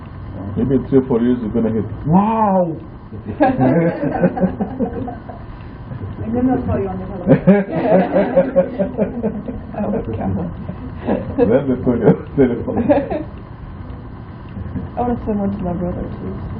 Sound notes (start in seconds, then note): 3.2 laughter